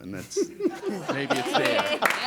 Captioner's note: laughter, applause, chaatter